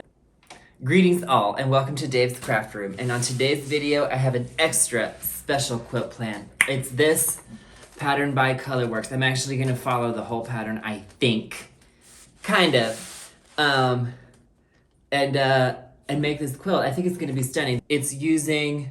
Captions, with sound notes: greetings all and welcome to Dave's craft room and on today's video I have an extra special quilt planned *tongue pop* it's this pattern by Colorwerks, I'm actually going to follow the whole pattern I think kind of! and make this quilt, I think it's going to be stunning it's using